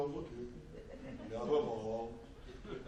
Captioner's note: audience laughs